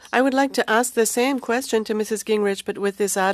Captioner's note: speaking French